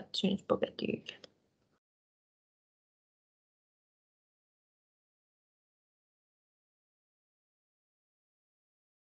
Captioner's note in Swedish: Tystnad